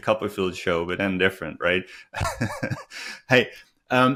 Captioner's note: laughing